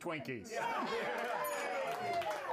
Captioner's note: all cheer; bell Rings